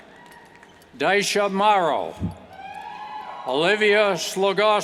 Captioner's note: cheers